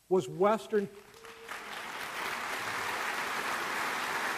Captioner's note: applause